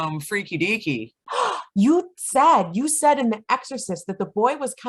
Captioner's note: gasp